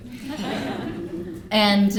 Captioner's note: laughter